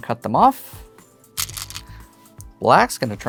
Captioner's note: stones rattling